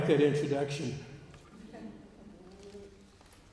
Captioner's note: laughter